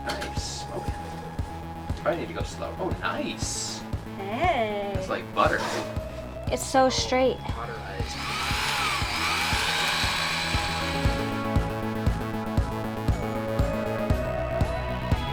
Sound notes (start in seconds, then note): 8.0 sewing machine whirring; 11.7 upbeat music continues